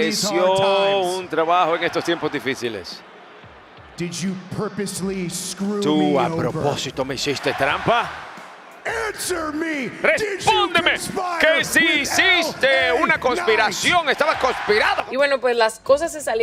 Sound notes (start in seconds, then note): none